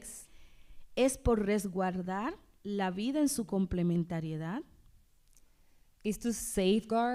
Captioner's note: speaking spanish